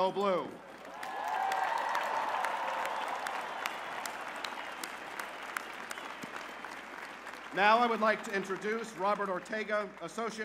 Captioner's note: cheers and applause